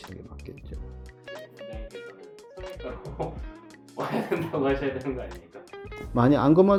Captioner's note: laughs